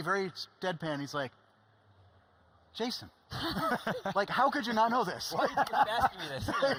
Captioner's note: laughing